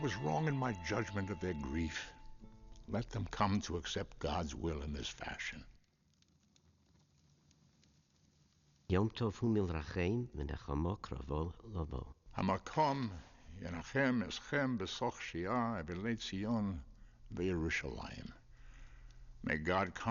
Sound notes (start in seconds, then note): 9.4 speaking Hebrew